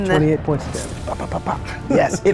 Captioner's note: puffing